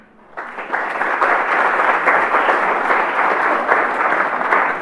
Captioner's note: applause